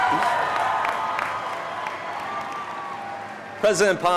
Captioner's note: audience cheering